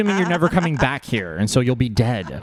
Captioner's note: laughs